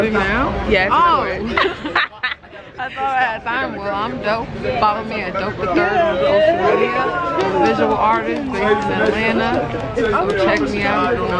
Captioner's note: conversation